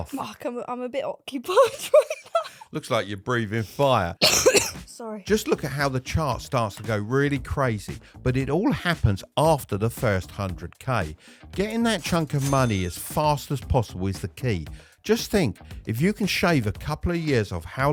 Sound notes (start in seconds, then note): 4.2 coughing